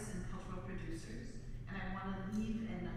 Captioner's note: none